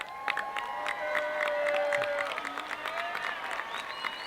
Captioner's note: audience cheering